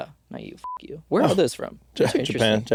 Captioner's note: beeping